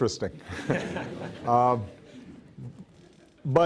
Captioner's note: laughs